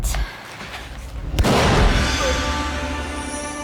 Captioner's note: gun fires